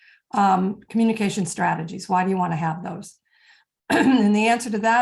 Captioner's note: clearing throat